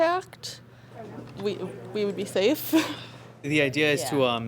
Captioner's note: laughs